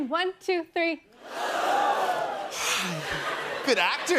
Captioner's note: audience gasps loudly